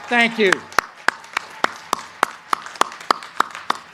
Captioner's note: crowd cheering